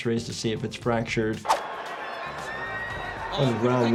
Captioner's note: audience cheering